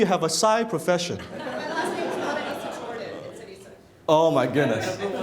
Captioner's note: laughing